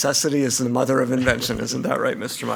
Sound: clears throat

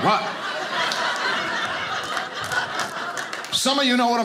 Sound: audience laughing

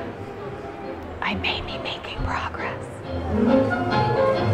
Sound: whispers

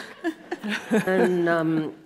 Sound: audience laughs

